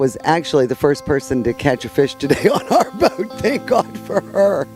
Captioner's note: laughs